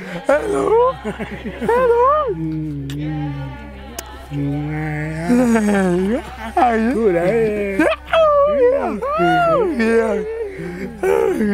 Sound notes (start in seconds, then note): 4.0 happy sounds